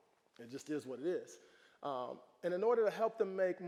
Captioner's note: none